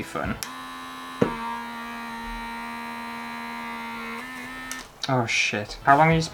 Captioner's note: buzzing Sounds